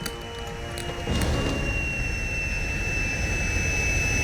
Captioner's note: airplane roars